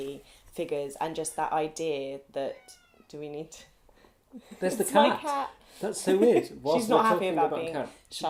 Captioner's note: miaow